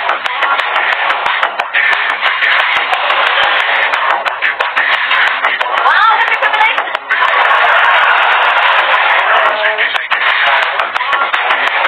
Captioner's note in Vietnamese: Vỗ tay